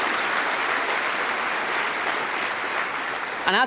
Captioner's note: applause